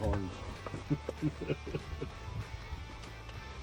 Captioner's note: laughter